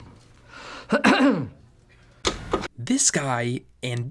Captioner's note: clears throat